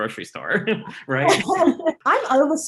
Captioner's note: laughs